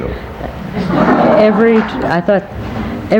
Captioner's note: people laughing